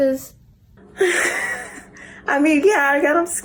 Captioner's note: Dee laughs